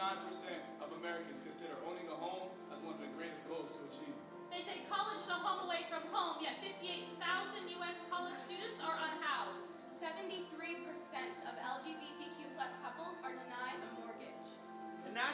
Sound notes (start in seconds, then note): none